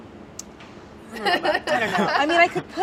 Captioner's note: laughs